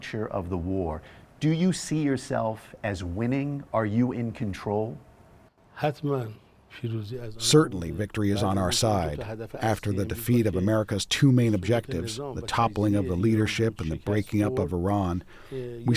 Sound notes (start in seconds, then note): 7.8 through translator